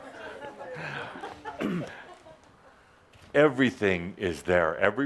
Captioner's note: laughter